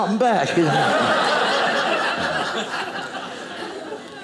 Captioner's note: audience laughing